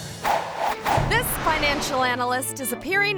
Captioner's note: logo whooshing